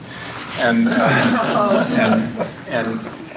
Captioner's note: laughter